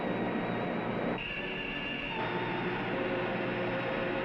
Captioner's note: machinery humming